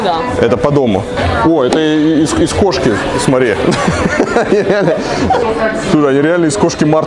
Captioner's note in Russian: смех